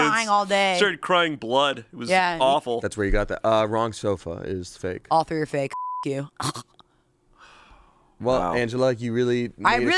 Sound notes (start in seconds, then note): 5.7 beep